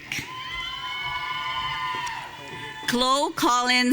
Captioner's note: audience cheering